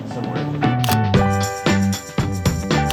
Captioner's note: upbeat music continues; camera button clicks